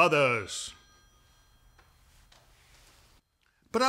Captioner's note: phone ringing